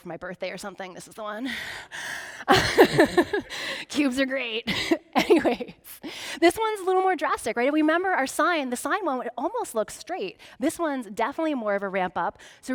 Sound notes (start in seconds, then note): 2.5 laughing